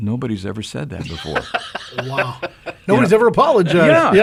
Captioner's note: chuckles